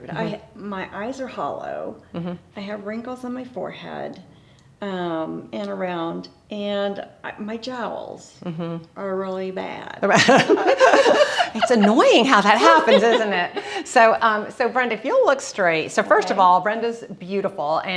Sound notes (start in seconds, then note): 10.1 both laughing